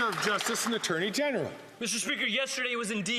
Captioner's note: some Applause